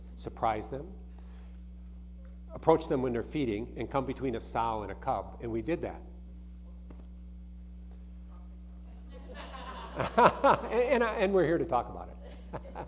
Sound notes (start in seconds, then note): 9.1 audience laughing